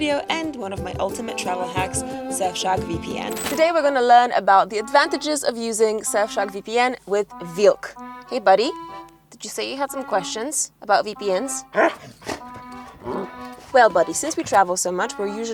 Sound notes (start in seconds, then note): 11.6 dog grunting; 12.4 upbeat music